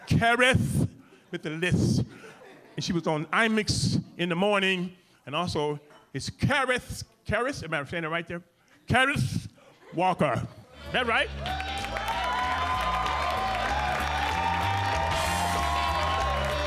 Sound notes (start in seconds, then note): 11.0 audience cheering; 14.0 upbeat music